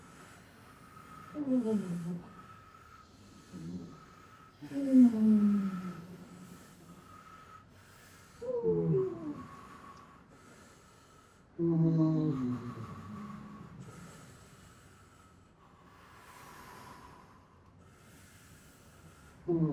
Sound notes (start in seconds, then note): 5.8 breathing deeply